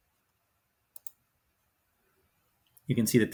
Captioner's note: mouse clicks